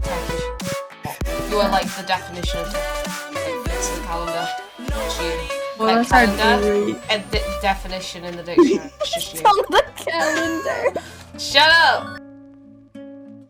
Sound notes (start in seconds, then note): 9.7 laughter